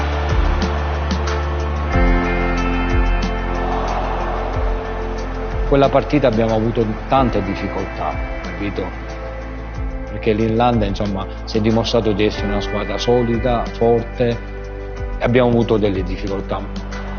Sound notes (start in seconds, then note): 3.3 crowd groaning